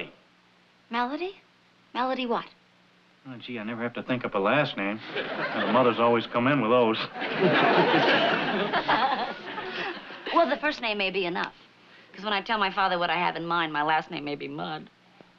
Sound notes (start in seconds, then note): 7.0 laughter